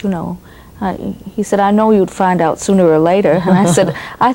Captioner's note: laughs